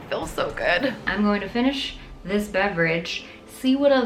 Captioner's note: title whooshing